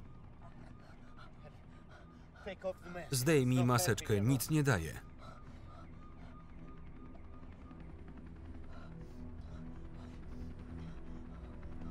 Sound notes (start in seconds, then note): 5.7 sirens wail; 5.7 somber instrumental music